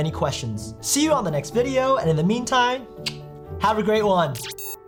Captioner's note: clicks